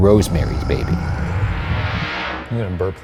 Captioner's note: demon growling